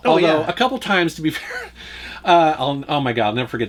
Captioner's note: laughs